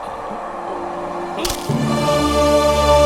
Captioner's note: bones Break